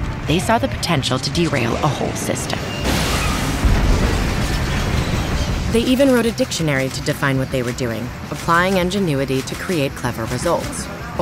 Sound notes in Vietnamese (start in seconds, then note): 2.7 tàu hoả đâm nhau và nổ tung